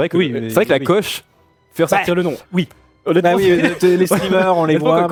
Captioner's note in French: rires